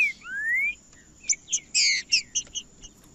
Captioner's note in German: trinca ferro cantando